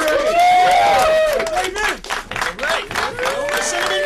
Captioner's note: cheering and applause